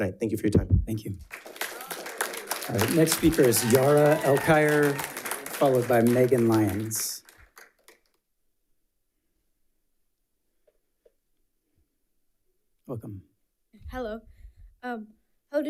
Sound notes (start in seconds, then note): 1.6 audience applauds